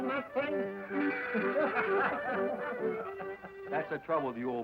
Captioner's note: men laughing